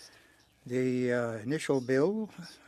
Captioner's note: speaking French